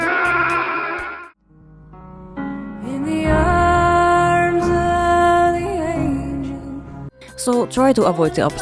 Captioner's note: scream